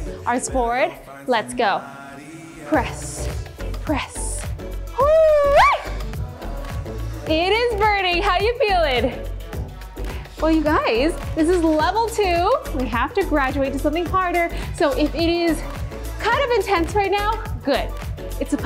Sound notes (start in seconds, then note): 3.8 shouting